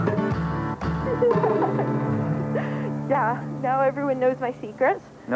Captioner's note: giggles